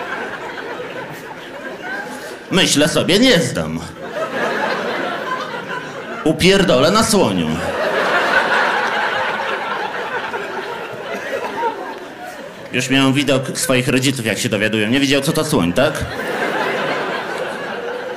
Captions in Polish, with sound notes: myślę sobie nie zdam upierdolę na słoniu [śmiech] już miałem widok swoich rodziców jak się dowiadują nie widział co to słoń tak